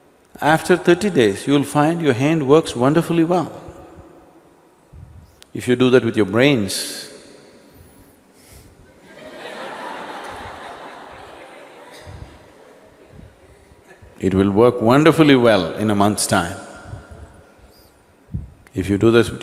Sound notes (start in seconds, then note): 12.8 laughter